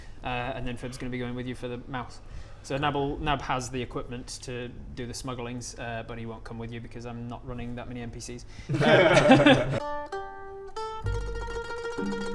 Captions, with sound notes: and then FIB's gonna be going with you for the mouth so NAB'll, NAB has the equipment to do the smugglings but he won't come with you because I'm not running that many NPCs *disappointed laughter* *mafia music*